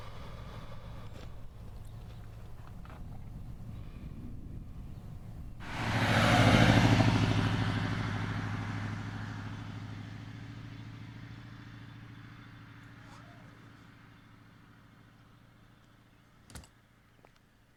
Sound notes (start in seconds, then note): 6.0 car engine roaring